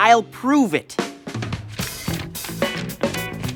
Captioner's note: papers flick